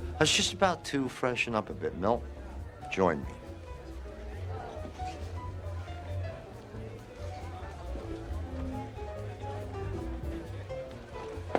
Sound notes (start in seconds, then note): 5.1 upbeat music; 5.2 patrons chatter